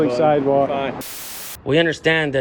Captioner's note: static crackling